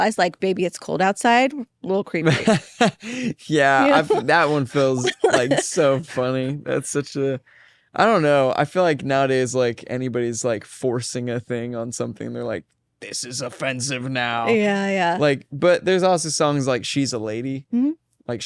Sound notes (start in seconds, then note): 2.3 both laugh